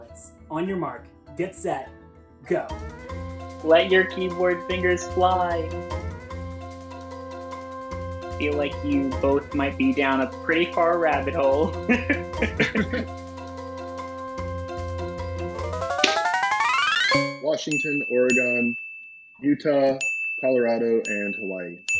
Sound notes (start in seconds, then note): 5.6 suspenseful music; 11.6 laughing; 15.6 electronics beeping